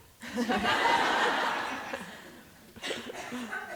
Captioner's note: laughter